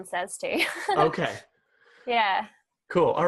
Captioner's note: laughing